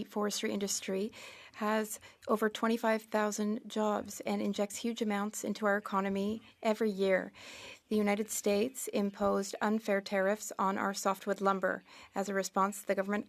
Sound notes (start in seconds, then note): 1.8 speaking French